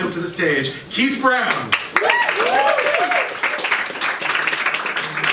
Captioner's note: applause